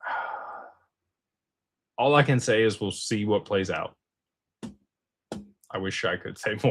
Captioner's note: sighs